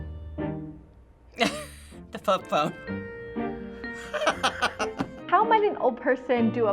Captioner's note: laughs